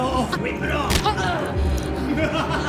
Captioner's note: hand thuds; Dorothy groaning; Oscar laughing